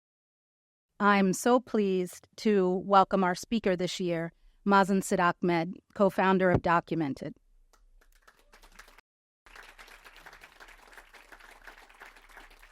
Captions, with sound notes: - I'm so pleased to welcome our speaker this year, Mazin Sidahmed, co-founder of Documented. (audience applauds)